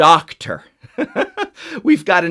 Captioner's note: laughs